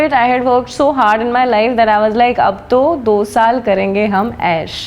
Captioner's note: hindi